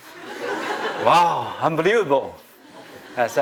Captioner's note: laughter